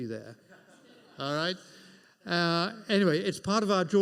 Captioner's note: audience laughs